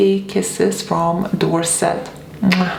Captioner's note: smooches